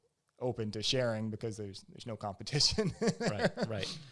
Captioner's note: laughs